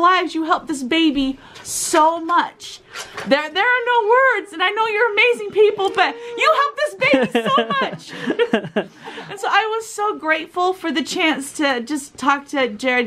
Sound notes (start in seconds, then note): 7.8 laughing